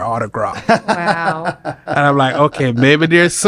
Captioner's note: laughs